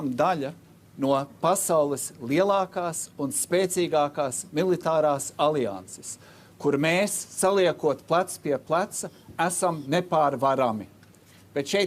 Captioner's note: speaking Alternate Language